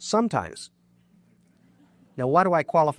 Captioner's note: audience laughs